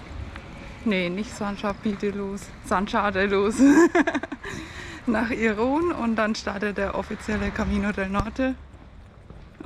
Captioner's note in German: gelächter